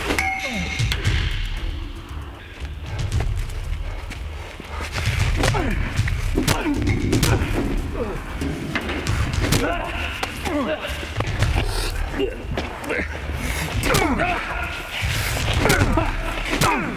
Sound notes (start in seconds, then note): 0.1 pipe clangs; 13.5 Jason grunts; 14.1 Jason groaning